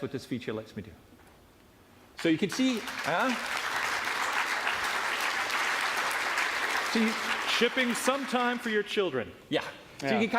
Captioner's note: applause